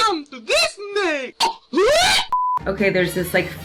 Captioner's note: shouts